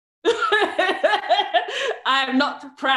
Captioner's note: laughs